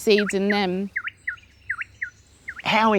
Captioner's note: bird calling